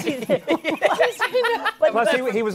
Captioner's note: laughter